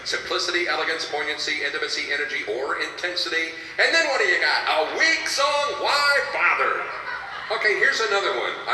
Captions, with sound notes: simplicity, elegance, poignancy, intimacy, energy, or intensity, and then what do you got, a weak song, why bother? (audience laughing) Okay, here's another one.